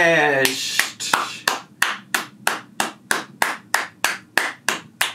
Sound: clapping

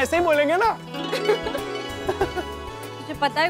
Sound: laughs

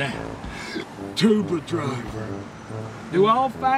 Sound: hiccups

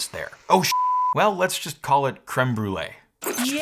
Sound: beep

